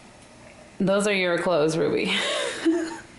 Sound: chuckle

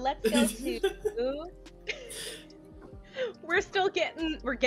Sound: laughter

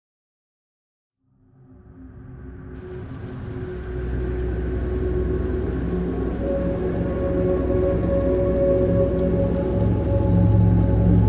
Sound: dark sound

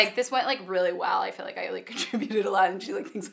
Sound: laughing

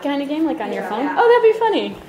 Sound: voiceover

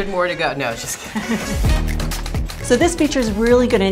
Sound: both laugh

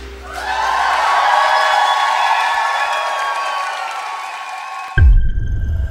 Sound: clapping

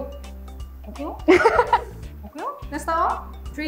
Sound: laughter

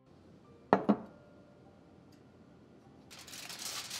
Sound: glass clinking; foil crinkling

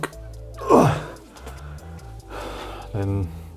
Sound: grunts

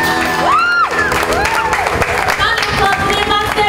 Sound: cheering

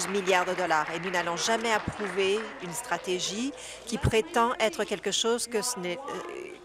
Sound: applause

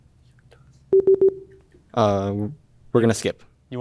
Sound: warning bleep

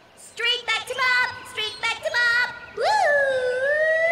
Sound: sing-songy

